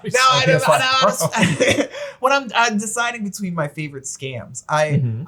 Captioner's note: laughs